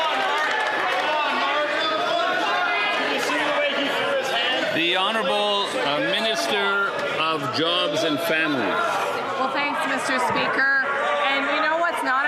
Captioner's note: some Applause